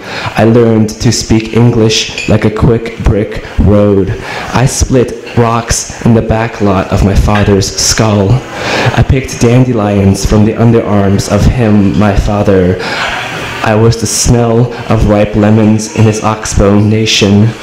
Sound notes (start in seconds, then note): none